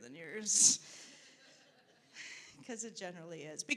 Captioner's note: audience laughing